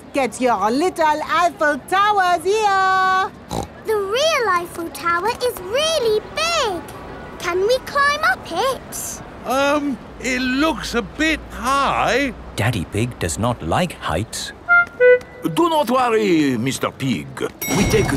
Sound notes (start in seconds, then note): 3.5 snorts